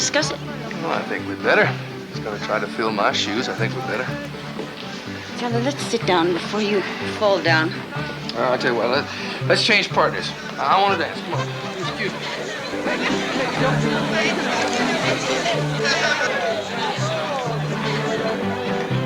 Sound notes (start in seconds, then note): 12.9 guests chattering